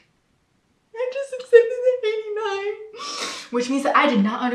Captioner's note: whimpers; whimpers